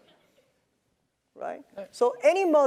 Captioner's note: laugh